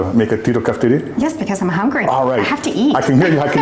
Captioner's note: laughter